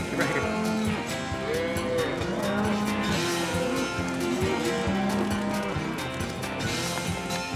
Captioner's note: mooing